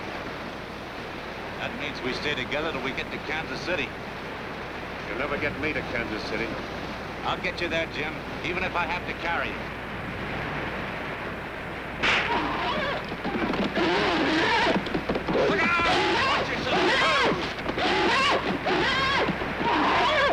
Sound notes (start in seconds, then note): 12.0 pole smacks, horse neighing; 17.3 neighing continues